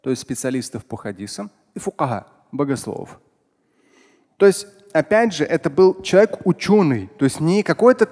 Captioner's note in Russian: говорит на арабском